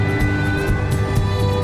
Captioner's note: water splashing